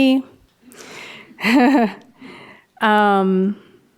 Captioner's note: laughs